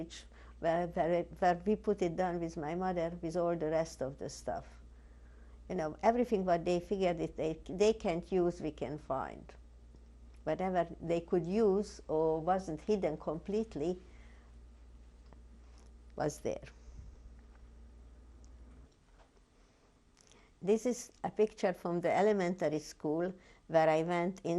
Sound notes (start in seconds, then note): 13.6 pauses for 3 seconds